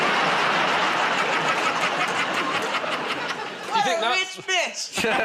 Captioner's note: laughter